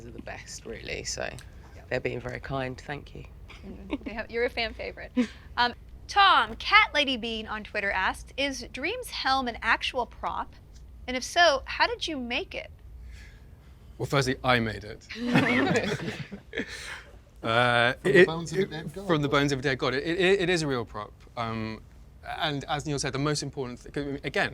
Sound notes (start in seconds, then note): 15.1 people laughing